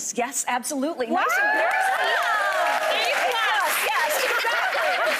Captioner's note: audience cheering